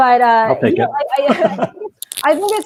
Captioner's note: laughing